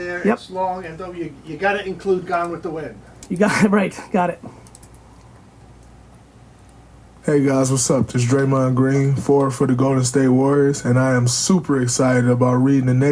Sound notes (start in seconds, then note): 7.3 voiceover